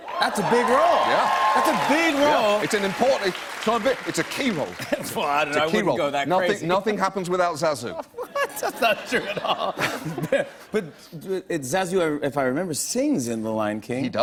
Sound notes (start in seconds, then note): 7.9 laughter